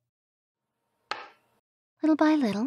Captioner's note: light thud